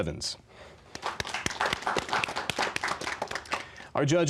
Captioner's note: applause